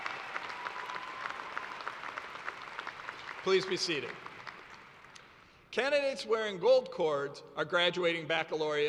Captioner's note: cheers and applause